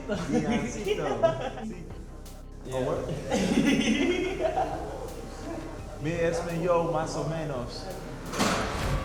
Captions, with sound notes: Deioncito. Oh, what? [laughs] [speaking spanish]